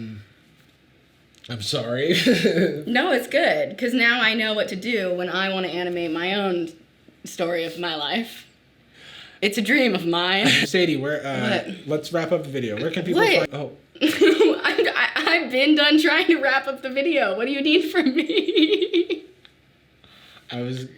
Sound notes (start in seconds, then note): 2.4 laughs; 18.0 laughing